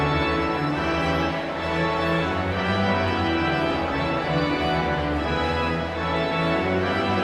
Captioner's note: audience chatter continues; pipe organ music continues